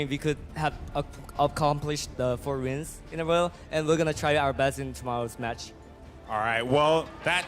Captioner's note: cheers